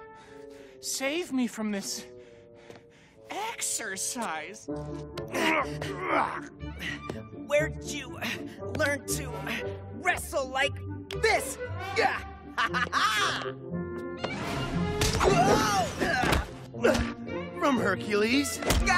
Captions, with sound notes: Please, save me... from this... exercise! (Grunting) Where did you... learn to... wrestle... like this? Oh, ha, ha, ha! Whoa! From Hercules.